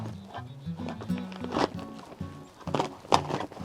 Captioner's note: metal scraping